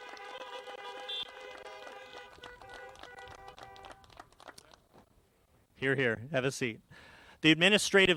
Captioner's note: applause